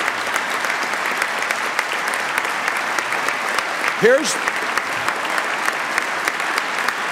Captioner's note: applause